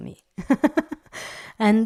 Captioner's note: laugh